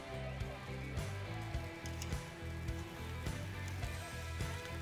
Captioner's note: chicken sizzling